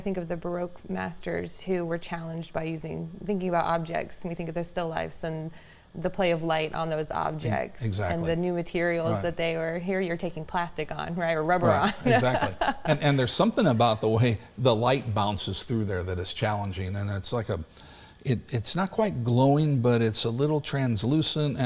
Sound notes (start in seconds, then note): 11.6 laughs